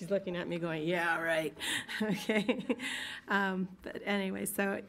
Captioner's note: laughs